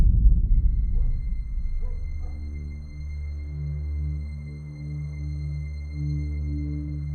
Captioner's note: eerie gentle music; dog barking